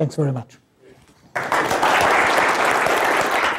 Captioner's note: applause